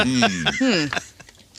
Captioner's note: laughter